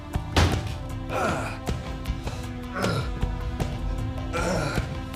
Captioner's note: phil grunts